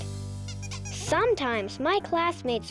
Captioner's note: playful jazz music; rabbit squeaking